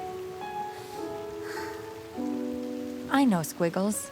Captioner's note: sighs